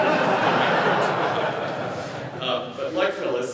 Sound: laughter

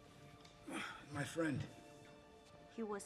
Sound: groans

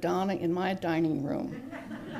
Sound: laughter

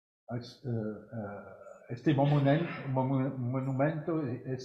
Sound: speaking french

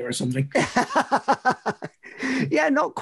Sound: laughs

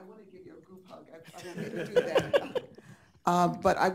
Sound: laughing

